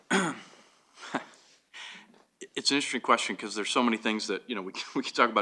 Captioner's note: chuckles